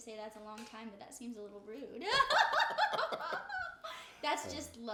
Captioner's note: laughs